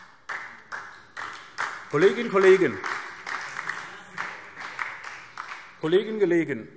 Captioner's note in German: Beifall SPD und vereinzelt DIE LINKE